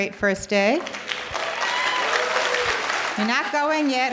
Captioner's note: audience applause